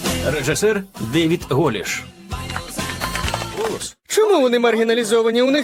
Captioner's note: scattered clapping